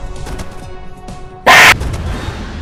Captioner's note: hl2 scream